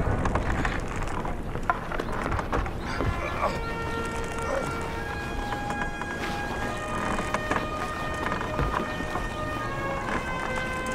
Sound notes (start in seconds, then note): 0.1 wood creaking; 2.9 grunts